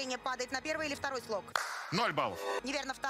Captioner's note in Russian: хлопо́к